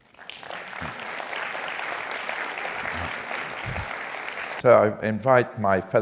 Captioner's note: applause